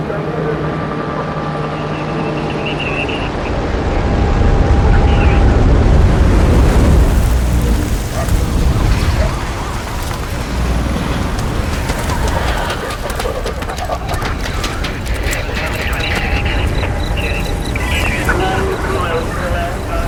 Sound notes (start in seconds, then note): 2.9 loud radio static and whine; 13.1 dog panting; 17.0 cricket chirping